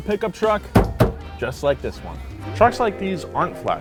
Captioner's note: taps door